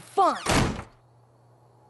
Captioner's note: slam!